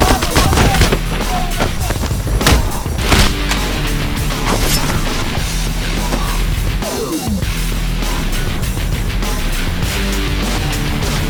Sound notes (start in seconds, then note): 4.2 knife whooshing; 4.5 gangsters screams